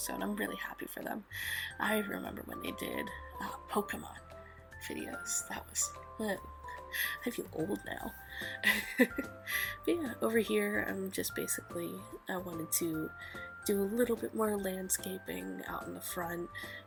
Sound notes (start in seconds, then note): 8.4 giggles